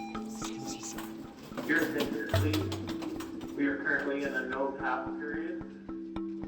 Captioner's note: electronic beep rings; suspenseful music; voice On PA